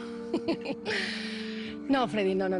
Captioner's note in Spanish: Risas